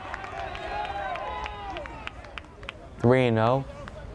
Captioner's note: crowd cheers and applauds